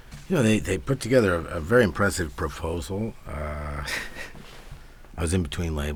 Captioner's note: laughs